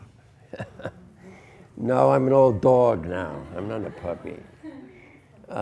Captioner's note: students laugh; laughs